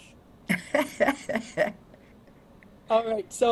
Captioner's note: board member laughing